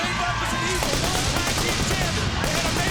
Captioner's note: pyro booming